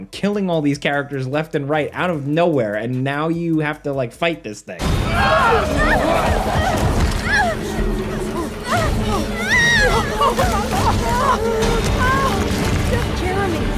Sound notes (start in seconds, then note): 5.0 game character grunting and screaming; 10.1 dramatic music